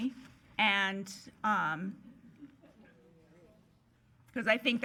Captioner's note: attendees murmuring